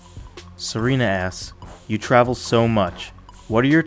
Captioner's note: voiceover